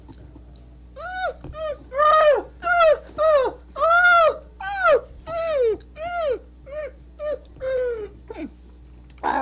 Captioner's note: ecstatic Sounds